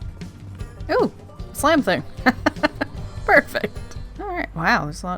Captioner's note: laughs